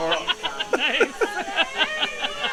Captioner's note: laughs